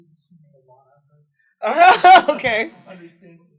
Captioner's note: laughs